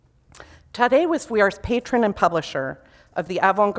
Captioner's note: foreign language